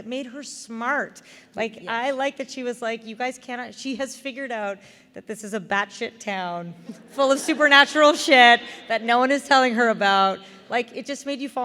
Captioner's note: laughter